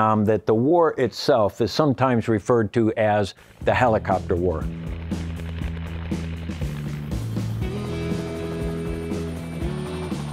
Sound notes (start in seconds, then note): 3.6 upbeat music; 5.3 helicopter blades whirring